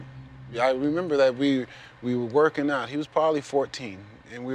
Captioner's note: none